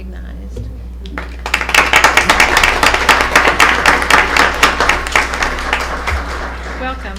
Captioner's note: applause